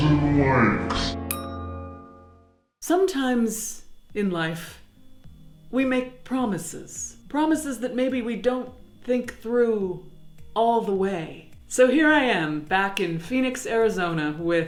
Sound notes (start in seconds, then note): 0.9 bell ringing